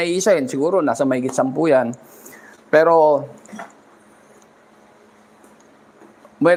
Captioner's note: clears throat